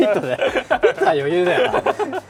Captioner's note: laughs